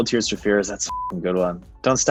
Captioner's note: beep